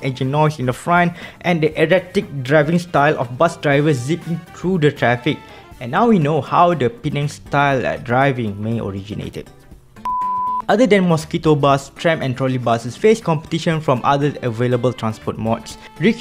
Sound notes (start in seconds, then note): 10.0 beep